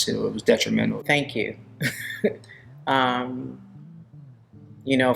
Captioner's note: chuckling